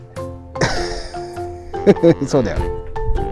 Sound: laughs

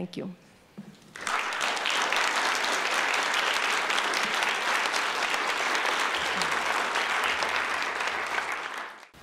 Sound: applause

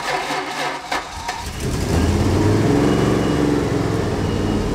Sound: engine purrs

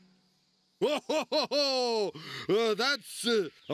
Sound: laughing

